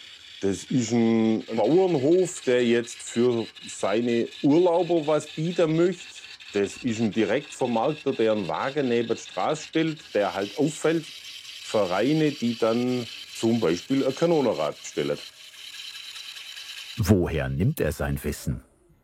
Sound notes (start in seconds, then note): 15.4 scraping noises